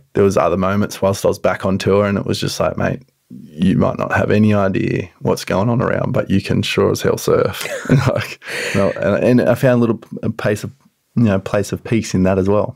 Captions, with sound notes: There was other moments whilst I was back on tour and it was just like, "Mate, you might not have any idea what's going on around, but you can sure as hell surf." (both laughing) And I found a little place of peace in that as well.